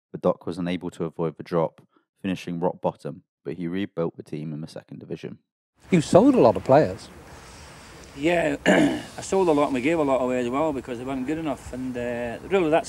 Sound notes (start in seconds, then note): 8.6 coughs